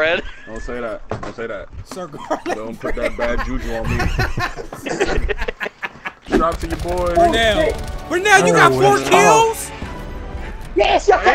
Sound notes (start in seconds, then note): 2.0 laughing